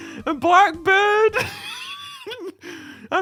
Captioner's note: w h e e e z e